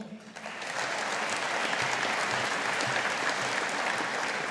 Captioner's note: audience applauding